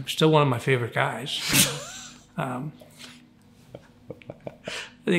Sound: laughs

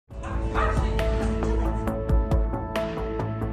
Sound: dog barking

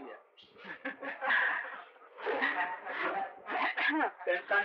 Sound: laughter

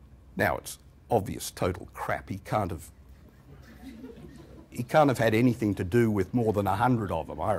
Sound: laughter

